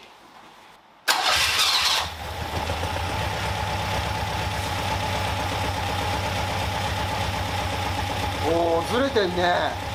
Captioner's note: engine whirring